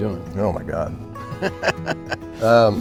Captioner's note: laughs